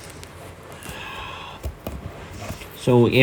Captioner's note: sighs in Depression